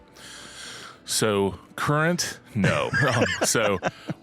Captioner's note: both laughing